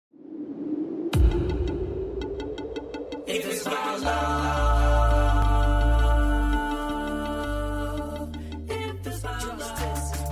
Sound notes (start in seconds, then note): 0.1 wind